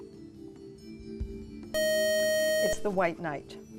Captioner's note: beep